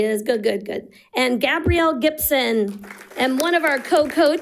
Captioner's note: audience applauding